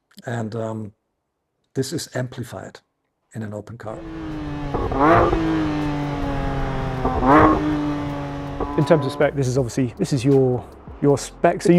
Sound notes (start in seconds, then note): 3.9 exhaust roaring